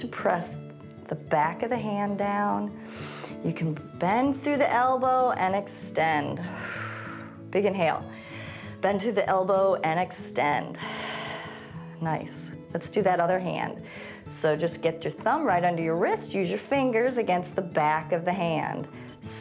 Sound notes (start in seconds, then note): 6.4 exhales; 6.4 inhales; 10.8 exhales